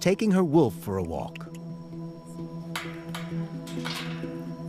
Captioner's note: clicks tongue